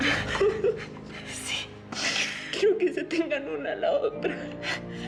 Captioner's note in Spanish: sollozos